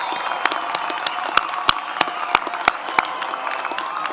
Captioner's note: applause